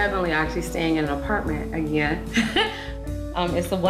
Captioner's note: laughs